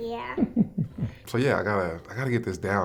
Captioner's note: laughter